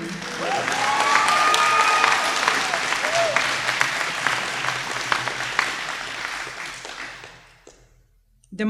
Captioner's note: applause